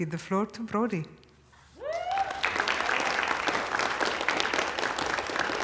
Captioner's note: applause